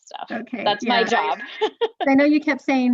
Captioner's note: laughing